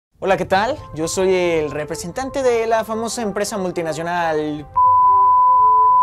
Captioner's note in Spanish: beep